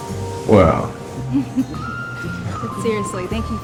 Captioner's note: laughing